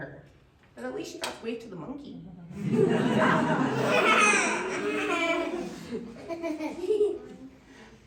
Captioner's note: laughter